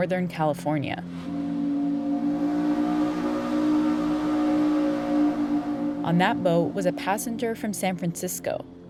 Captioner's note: soundbite of steamship horn sounding